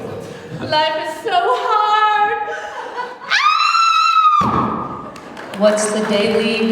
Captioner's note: woman screaming and hitting mat